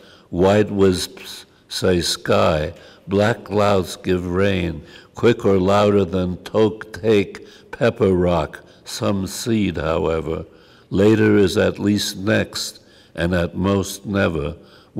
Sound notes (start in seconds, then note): none